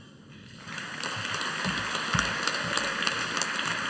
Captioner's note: audience applauding